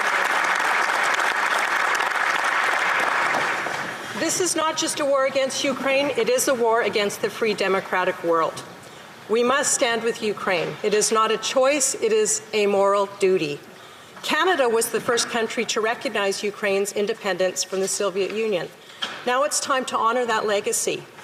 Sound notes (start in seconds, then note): 3.0 applause